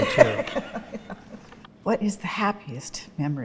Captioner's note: both laughing